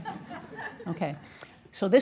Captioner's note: audience laughing